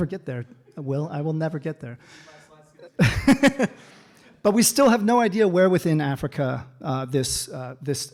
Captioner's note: laughter